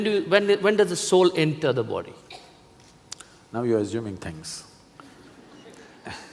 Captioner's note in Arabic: ضحك